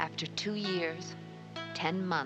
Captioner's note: Maggie Voiceover